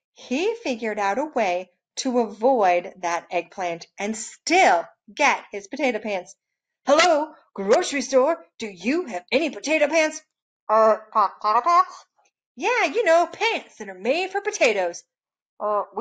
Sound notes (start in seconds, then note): none